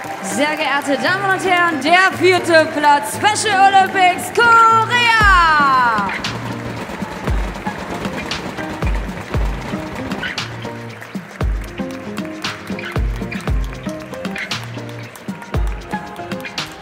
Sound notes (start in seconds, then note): 5.8 applause; 5.8 ♫ Midtempo guitar music ♫